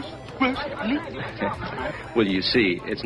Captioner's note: chuckles